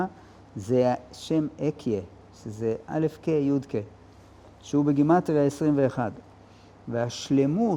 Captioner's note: in Hebrew